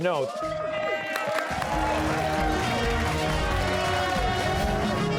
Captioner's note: cheers and applause